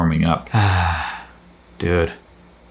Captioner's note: sighs